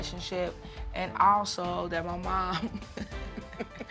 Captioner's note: chuckles